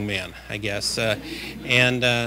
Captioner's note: laughter